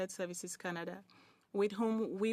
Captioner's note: speaking in French